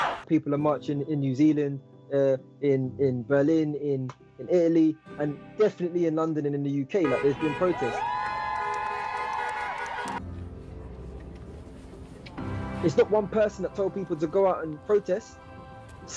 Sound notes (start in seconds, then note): 7.0 car horns honking; 9.5 cheering